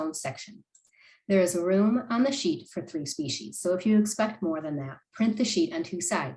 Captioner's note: click